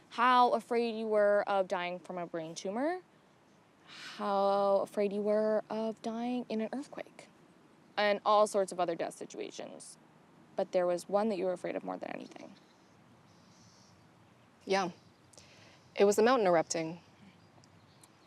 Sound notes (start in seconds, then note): none